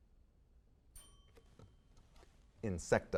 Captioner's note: bell dings